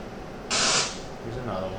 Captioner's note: white noise